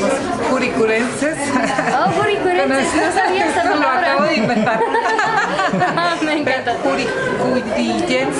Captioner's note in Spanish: risas